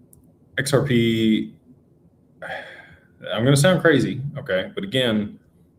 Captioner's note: sighs